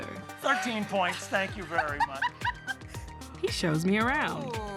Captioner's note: laughs